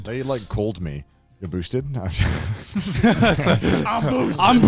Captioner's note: chuckles